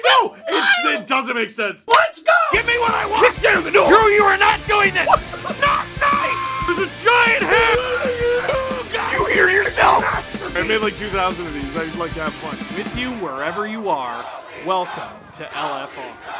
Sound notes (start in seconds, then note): 0.0 laugh; 7.0 Harry potter screaming; 7.0 screaming